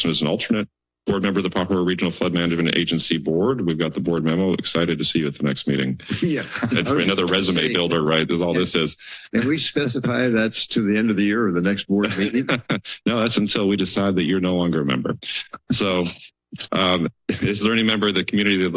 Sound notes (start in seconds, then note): 6.5 laughs; 12.7 laughs